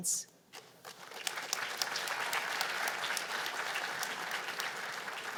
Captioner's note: applause